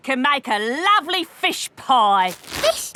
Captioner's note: none